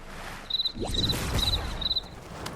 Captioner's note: sound of crickets